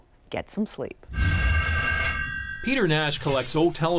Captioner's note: phones ringing